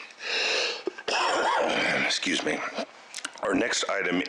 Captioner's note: coughs